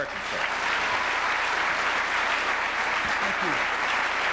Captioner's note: applause